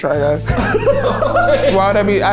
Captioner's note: everyone laughing